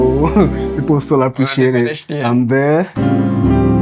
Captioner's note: laughs